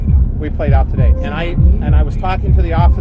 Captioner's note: heavy Russian accent